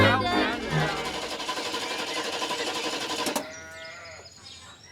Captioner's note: engine Trying to Crank